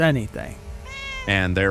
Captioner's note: humming drone fans and meowing can be heard in the background